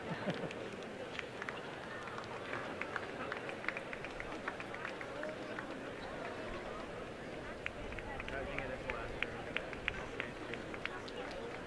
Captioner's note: applause